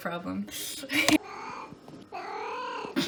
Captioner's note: mrow